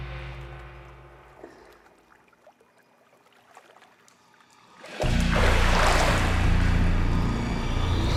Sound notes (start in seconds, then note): 4.2 water splashes